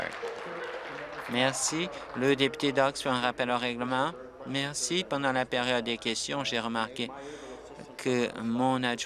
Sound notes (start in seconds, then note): 2.2 applause